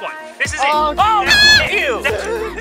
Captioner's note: noot